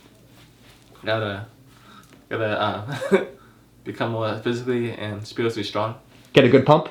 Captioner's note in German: lacht